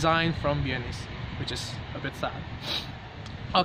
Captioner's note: sniff